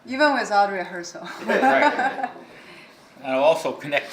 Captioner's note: laughing